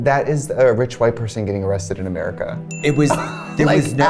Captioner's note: bell dings